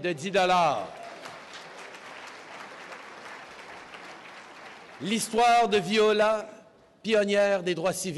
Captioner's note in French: Applaudissements